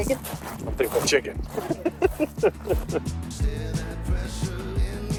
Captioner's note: laughs